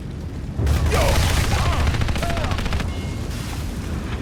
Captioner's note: guns banging